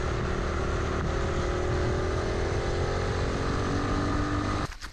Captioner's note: CT90 Engine Noise, no music